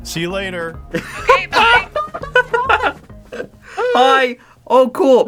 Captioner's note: laugh in abrupt conversation